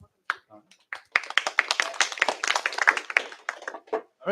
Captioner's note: applause